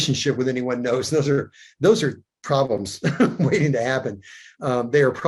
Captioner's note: chuckles